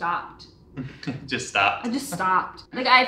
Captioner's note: chuckles